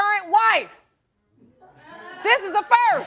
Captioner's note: audience chuckling